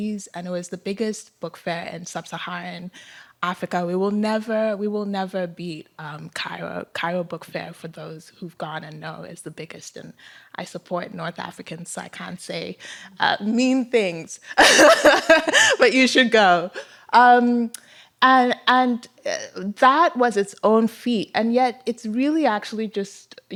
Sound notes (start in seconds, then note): 14.6 laughter